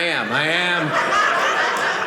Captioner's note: audience laughing